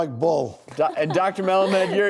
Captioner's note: laughing